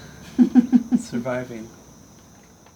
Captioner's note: laughing